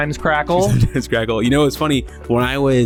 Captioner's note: laughs